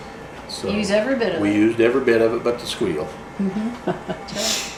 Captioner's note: laughs